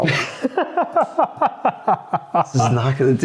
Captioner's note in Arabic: يضحك